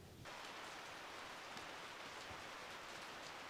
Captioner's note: rain splashes